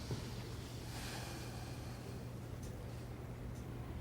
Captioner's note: sighs